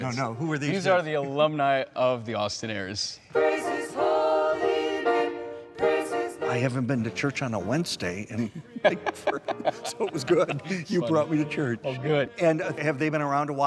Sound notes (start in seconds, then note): 8.4 laughing